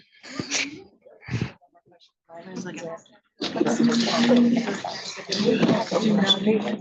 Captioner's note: indistinct audience chattering